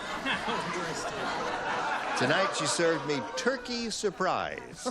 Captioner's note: chatter